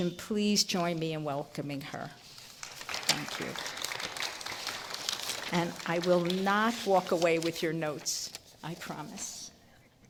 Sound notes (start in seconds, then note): 2.6 applause